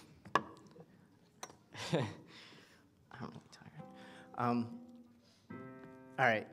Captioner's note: chuckles